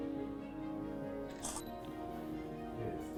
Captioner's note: camera shutter